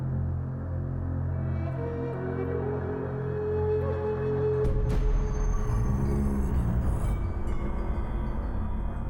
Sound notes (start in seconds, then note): 5.7 low growl